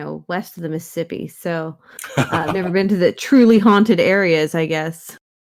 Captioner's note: laughs